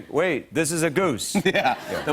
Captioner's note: laughing